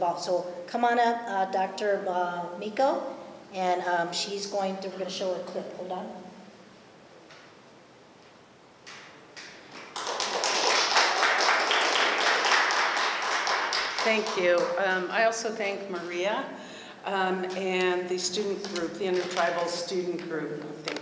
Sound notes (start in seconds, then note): 9.7 applause